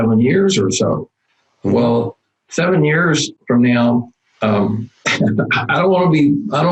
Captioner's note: laughs